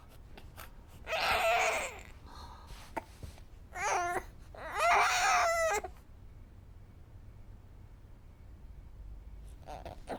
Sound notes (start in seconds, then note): 1.1 baby grunting and crying